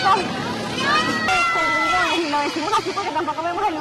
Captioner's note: screams